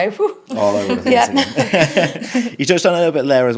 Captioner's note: laughing